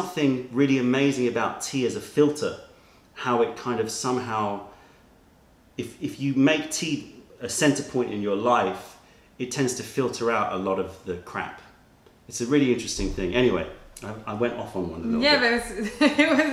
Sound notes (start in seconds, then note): 15.8 laughter